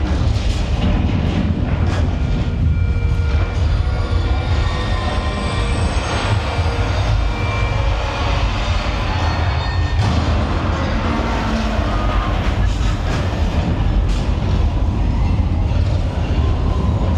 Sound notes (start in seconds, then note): 2.2 drawn out monotonous tone plays; 7.7 train rumbles